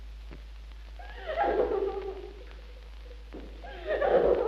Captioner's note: Madeline sobs